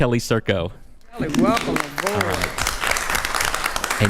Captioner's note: attendees applauding